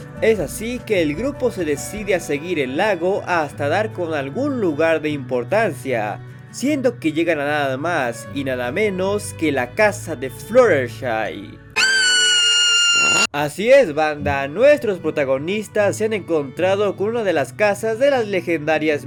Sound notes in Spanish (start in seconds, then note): 11.7 grito